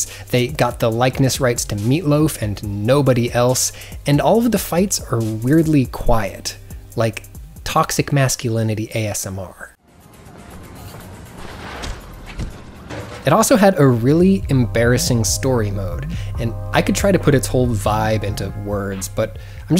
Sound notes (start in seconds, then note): 9.8 faint electronic music; 11.4 blows dully thud